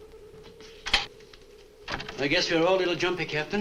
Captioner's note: door opens